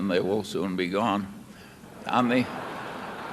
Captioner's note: laughter